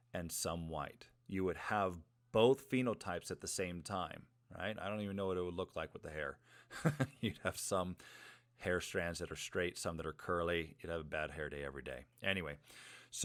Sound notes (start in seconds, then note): 6.7 chuckles